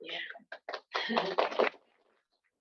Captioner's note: applause